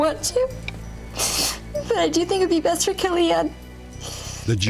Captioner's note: sniffles